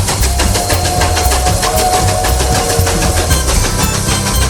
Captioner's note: train whistle